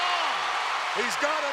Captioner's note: audience cheering